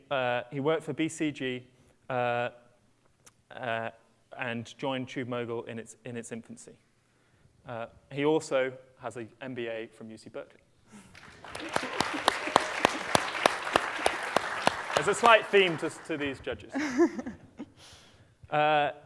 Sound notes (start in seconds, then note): 11.0 applause; 16.6 laughter